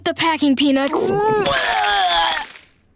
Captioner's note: vomiting